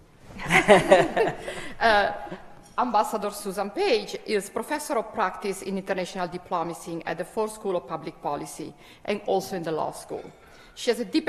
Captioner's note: laughter